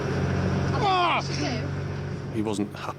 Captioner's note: patient screams